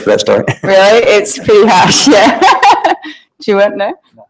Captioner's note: laughs